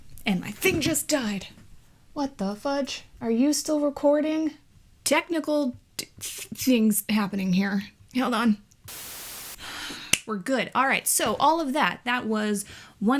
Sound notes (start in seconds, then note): 8.8 static noises; 10.0 claps